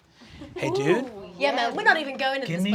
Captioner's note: laughter